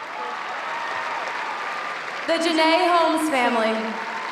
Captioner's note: applause